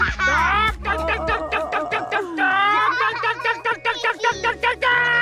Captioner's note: making bird sound